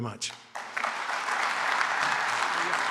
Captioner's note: applause